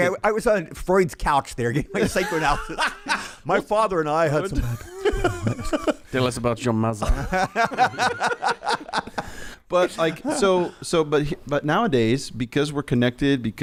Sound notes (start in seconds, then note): 7.5 laughing